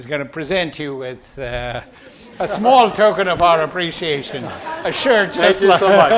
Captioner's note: laughs